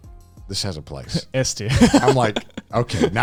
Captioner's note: laughing